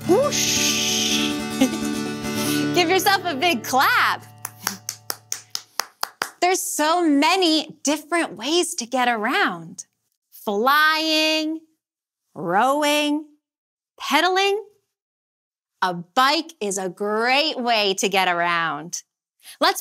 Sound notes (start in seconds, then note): 1.5 giggles; 4.2 clapping